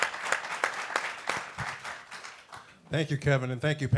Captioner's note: applause